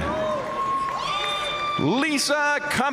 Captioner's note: audience cheering and applauding